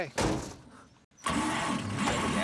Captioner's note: engine turning over